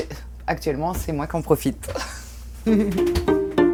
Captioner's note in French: rires